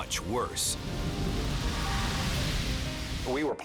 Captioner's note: fire roaring